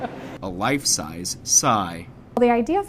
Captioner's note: laughs